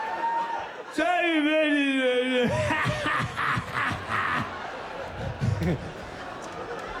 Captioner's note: laughs